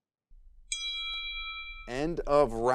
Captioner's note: bell rings